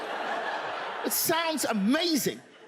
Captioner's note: audience laughs